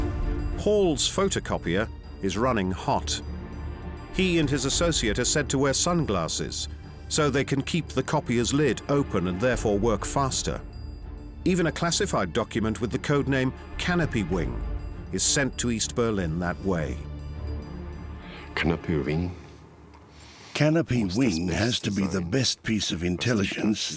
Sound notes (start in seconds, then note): 18.2 speaking German